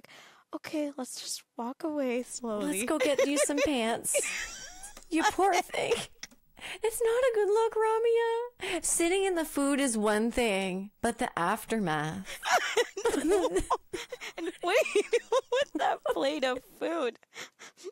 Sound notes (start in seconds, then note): 2.6 laughing; 12.3 laughing